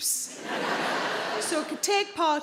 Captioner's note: audience laughing